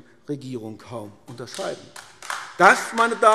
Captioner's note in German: Beifall AfD